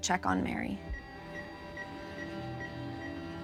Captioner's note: rapid beeping; ominous music